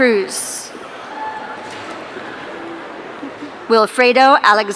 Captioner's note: audience cheering